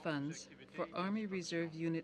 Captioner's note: speaking French